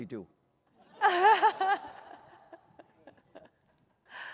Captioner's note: laughter